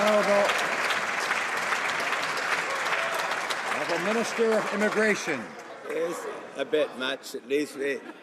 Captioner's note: some Applause